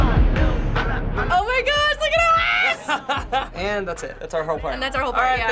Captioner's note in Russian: смеется